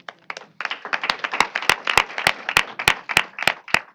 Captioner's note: applause